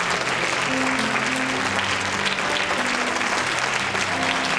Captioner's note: cheering